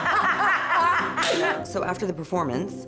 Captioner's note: laughter